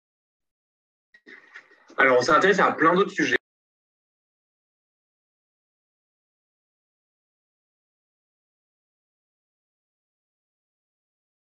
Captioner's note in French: coupure du son